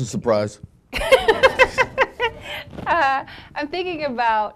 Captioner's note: laughing; audience laughing